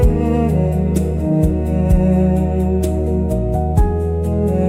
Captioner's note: slapping, friction, percussion